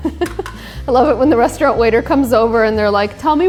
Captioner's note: chuckles